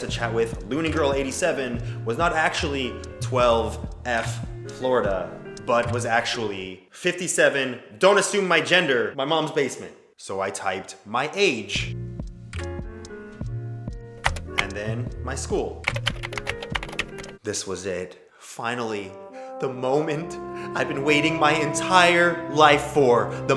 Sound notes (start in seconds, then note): 14.2 typing noises; 15.8 more typing